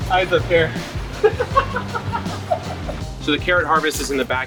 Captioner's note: laughs